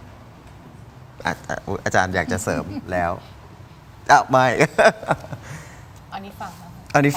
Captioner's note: laughs